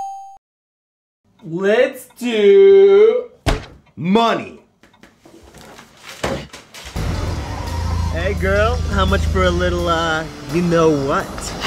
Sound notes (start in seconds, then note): 0.1 bell goes ding; 3.4 thud as snake hits table